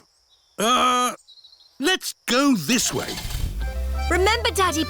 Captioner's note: starts engine